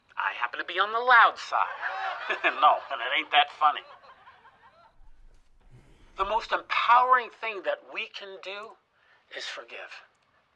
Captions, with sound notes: I happen to be on the loud side. (audience laughing) No, it ain't that funny. The most empowering thing that we can do is forgive.